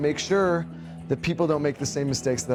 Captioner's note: voiceover